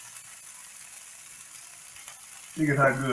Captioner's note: sizzling